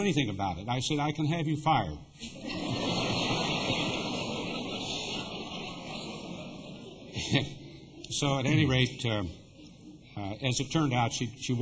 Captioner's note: laughter